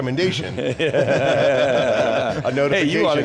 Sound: all laugh

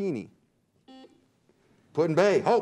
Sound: buzzer beeps

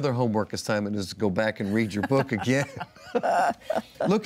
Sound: laughs

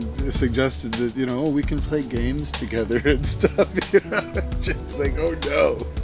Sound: laughs

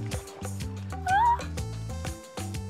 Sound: squeals

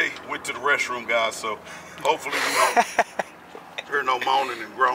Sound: laughing

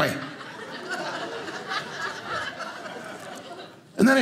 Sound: audience laughing

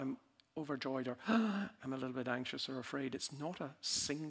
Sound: gasping

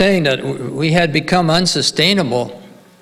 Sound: none

